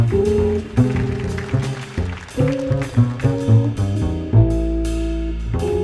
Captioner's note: audience applauding; jazz music continues